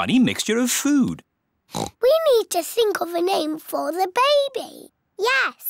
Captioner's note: oinks